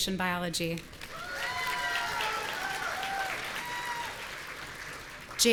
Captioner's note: audience cheering